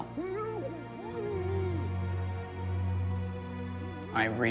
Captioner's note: male executioner grunting